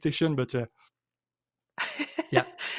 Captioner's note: laughs